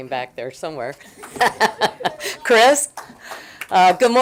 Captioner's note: laughing